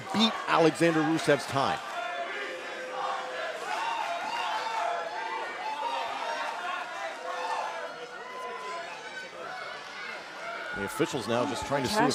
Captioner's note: crowd chatter